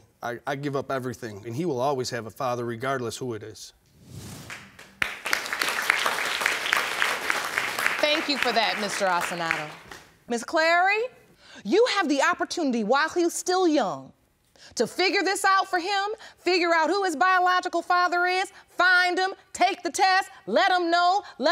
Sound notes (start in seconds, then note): 4.4 audience clapping